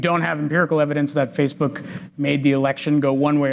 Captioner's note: none